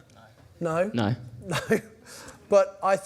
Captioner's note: laughs